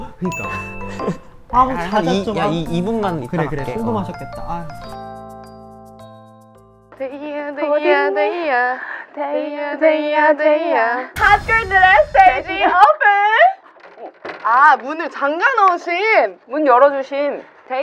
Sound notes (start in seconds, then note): 13.7 rattle